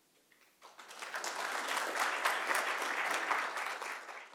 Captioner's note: applause